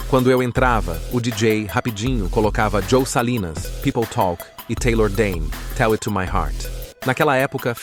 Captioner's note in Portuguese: People talk